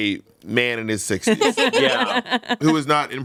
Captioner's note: everyone laughs